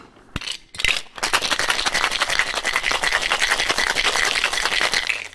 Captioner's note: cocktail bottle shaking